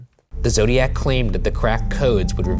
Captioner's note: voiceover